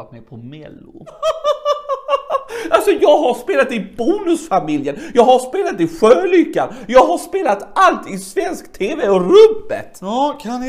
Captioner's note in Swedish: skrattar